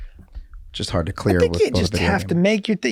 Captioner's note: Rob trails off